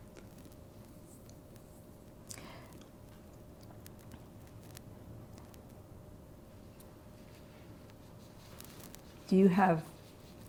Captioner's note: pauses 8 seconds